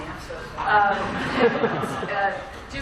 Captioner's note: laughter